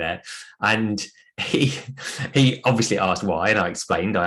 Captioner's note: chuckles